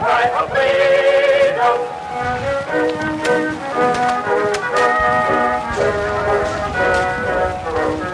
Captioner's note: Civil War Battle Sounds and Music